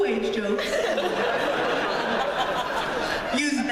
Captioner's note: laughter